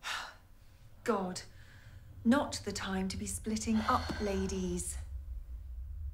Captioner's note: sighs; ominous music